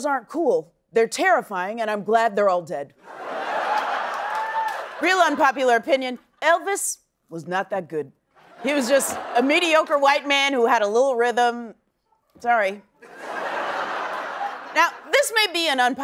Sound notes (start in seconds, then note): 3.0 laughter